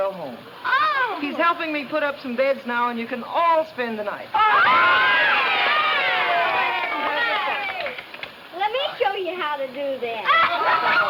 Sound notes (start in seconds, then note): 4.3 children cheering; 5.5 children clapping